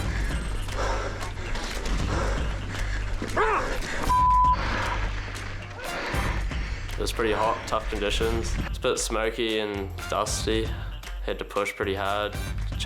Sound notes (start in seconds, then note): 0.0 panting; 3.4 man shouts; 4.1 beep